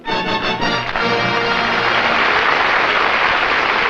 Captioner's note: applause